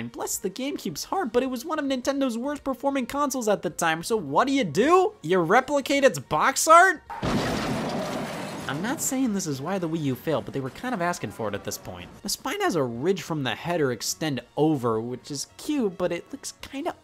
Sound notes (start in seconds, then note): 7.1 crashing noise